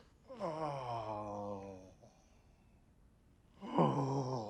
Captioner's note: Richard moaning